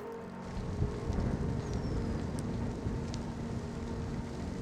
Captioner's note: fire rumbling